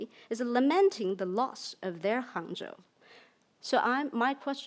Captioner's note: speaks in foreign language